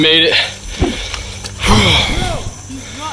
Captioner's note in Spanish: suspira